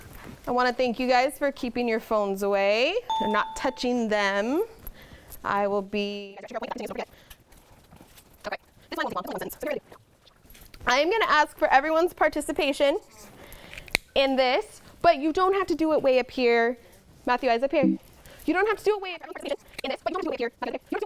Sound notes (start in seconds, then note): 3.1 ding; 17.8 error sound